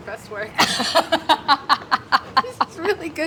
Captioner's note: laughs